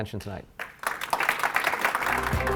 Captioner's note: applause